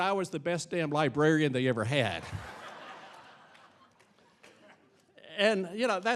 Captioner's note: audience laughing